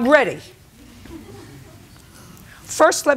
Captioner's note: spectators murmur